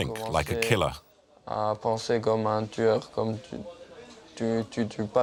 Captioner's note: French spoken audio